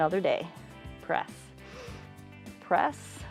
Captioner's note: inhales